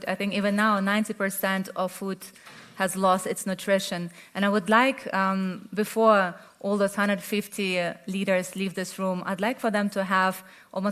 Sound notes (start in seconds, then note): none